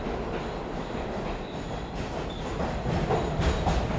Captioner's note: subway rattling